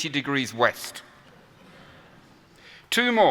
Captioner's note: laughter